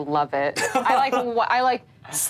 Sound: laughs

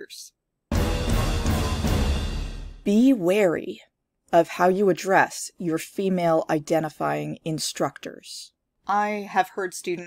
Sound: warning sound

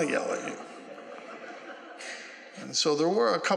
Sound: laughter

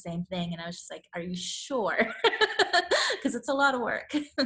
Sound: laughs

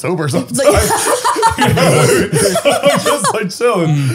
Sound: all laughing

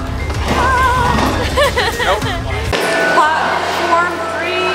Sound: crying

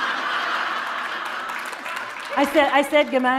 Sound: laughter

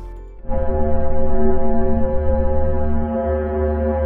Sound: eerie whirring

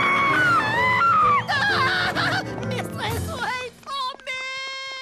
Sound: roaring; screaming

